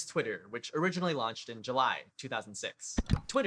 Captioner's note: click